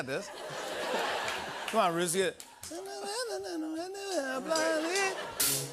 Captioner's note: laughter; humming